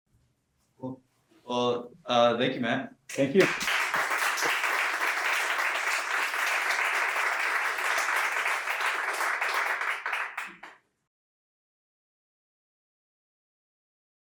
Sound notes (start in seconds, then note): 3.3 audience Applause